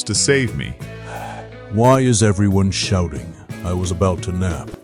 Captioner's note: sigh